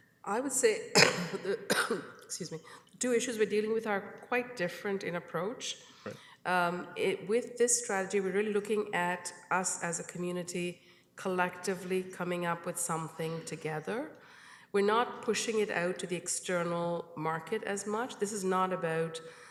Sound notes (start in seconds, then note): 2.4 coughs